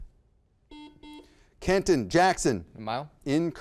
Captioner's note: buzzer beeps